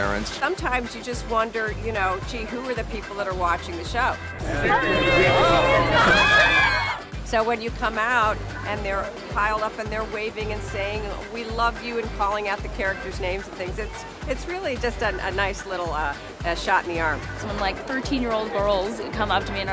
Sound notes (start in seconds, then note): 4.4 crowd yelling "hi"